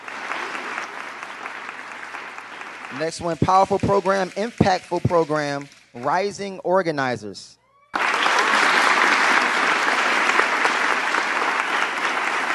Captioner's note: applause